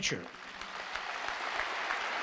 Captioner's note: applause